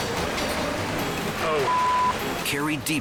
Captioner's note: beep